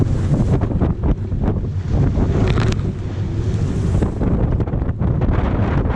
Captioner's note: wind noise